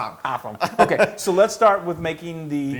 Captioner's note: laugh